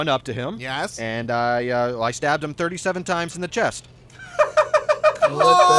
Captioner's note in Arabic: يضحك